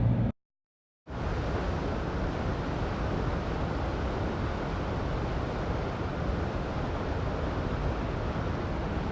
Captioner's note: river sounds